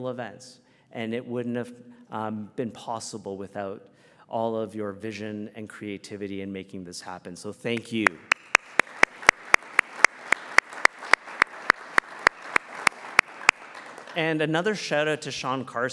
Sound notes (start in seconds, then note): 9.8 applause